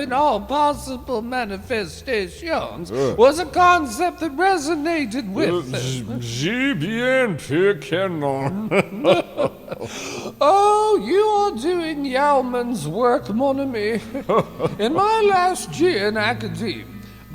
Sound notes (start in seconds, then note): 6.0 french